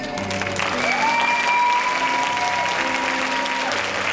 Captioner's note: cheering